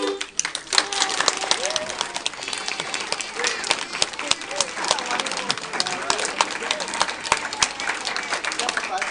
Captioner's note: applause